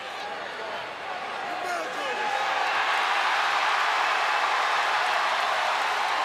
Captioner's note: applause